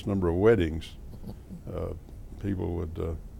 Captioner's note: laughter